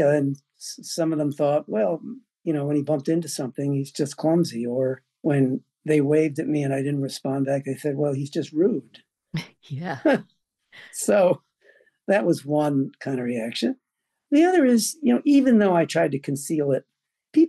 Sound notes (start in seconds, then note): 11.0 laughs